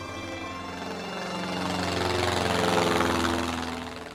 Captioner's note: airplane buzzing